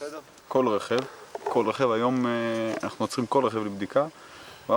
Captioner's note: Hebrew spoken audio